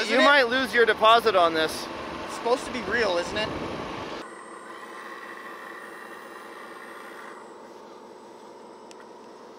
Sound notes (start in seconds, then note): 4.8 engine roars